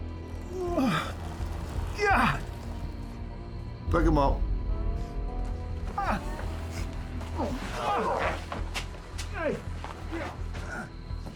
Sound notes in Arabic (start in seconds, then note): 3.8 لهجة اسكتلندية; 6.0 جيرالدو يواصل التأوه